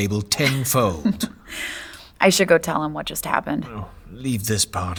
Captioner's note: laughing